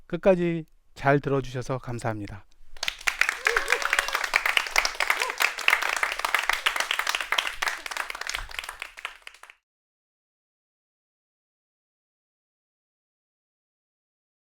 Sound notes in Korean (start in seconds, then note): 2.7 박수